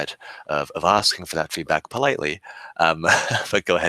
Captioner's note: laughing